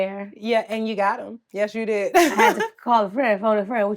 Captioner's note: laughs